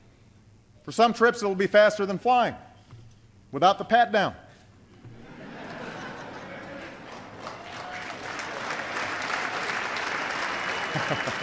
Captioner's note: laughter and applause